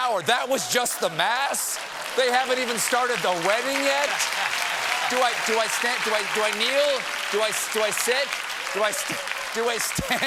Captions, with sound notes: THEY HAVEN'T EVEN STARTED THE WEDDING YET? ( APPLAUSE ) DO I STAND UP? SIT DOWN?